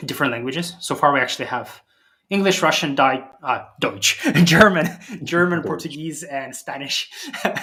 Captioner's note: German